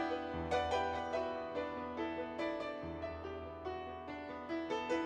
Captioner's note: none